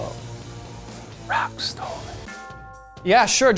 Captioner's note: whispering